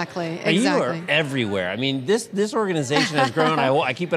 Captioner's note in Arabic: تضحك